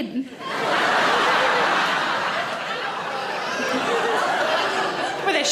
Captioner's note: audience laughing